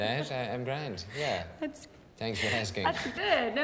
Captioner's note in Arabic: يضحك